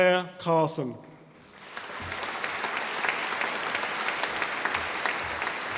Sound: audience applauding

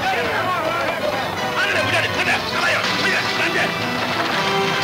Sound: yelling in Spanish

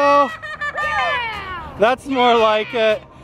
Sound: exciting laughter from all

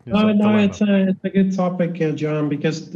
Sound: faintly speaking

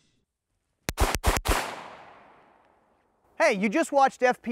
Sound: gunshots

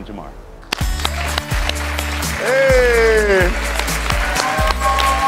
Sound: audience applauds

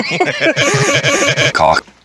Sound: Bobby wheezing in and out

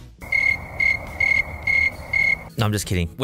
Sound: crickets

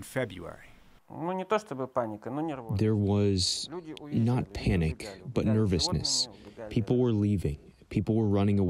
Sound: through translator

